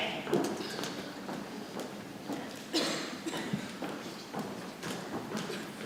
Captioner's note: people chattering softly